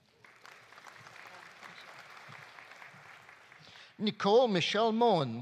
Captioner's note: audience applauding